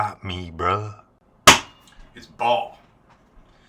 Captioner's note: basketball slap